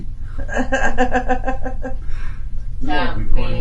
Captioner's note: laughing